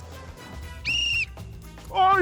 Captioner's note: whistle blows